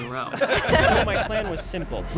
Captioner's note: all laughing